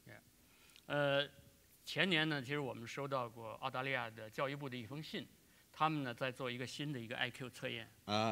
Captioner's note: speaking in Chinese